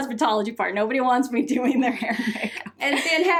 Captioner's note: laughs